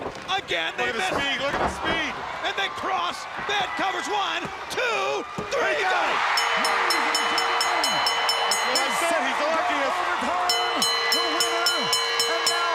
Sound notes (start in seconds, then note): 7.8 crowd cheering; 8.7 bell ringing